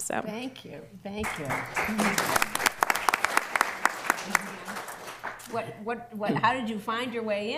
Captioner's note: applause